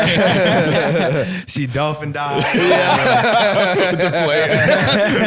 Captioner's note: all laughing